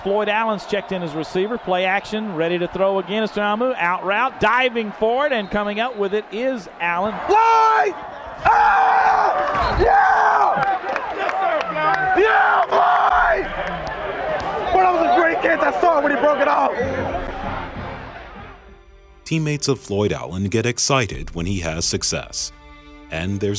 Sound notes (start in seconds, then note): 7.5 cheering